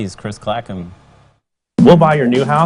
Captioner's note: sound of a montage of TV Ads